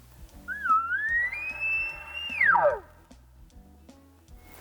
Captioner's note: horn bugling